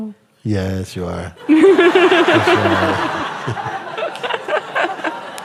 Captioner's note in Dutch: gelach